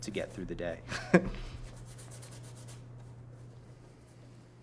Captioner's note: chuckles